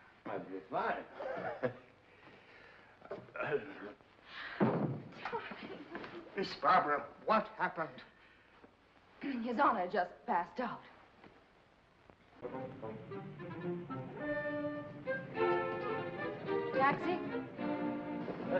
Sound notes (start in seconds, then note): 1.2 raspy chuckle; 3.2 mumbles; 4.6 thump; 12.4 whimsical music